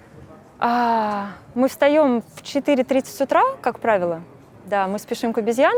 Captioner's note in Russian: Вздыхает